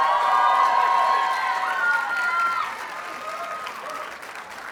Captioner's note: audience cheers and applauds